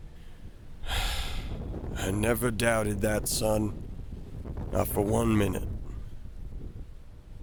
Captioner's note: sigh